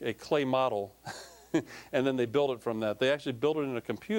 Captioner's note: chuckling